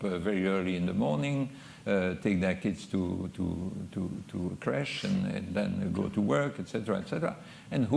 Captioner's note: french